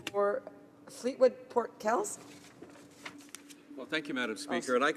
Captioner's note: speaking in French